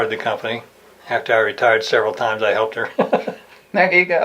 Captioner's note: laughs